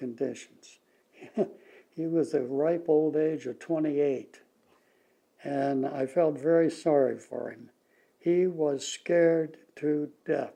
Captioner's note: laughs